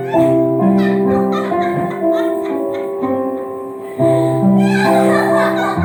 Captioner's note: laughs